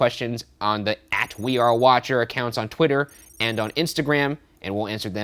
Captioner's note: none